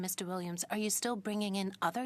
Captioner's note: speaking in French